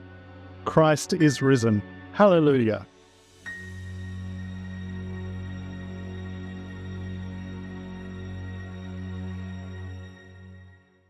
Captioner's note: Korean